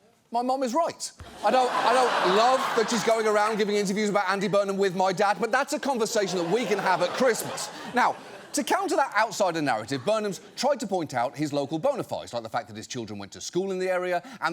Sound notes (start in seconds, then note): 1.4 audience laughs